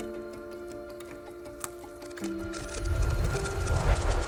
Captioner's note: chewing sound